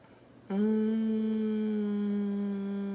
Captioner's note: hums